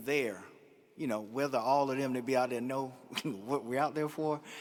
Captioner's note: chuckles